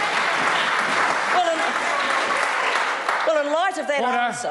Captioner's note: members applaud